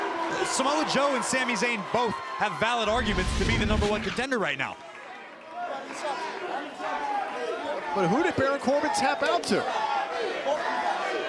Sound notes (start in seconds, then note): 3.0 crowd chatter